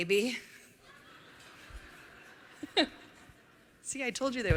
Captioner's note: laughter